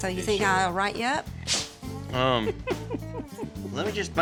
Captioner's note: giggling